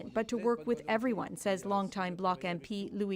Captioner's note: speaking French